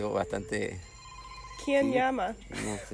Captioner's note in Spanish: timbre de tel